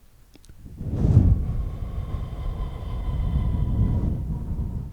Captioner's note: breathes in; breathes out